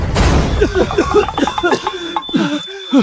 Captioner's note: cough cough cough